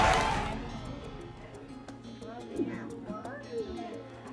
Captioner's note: audience cheers